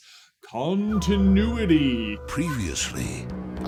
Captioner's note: announcer voice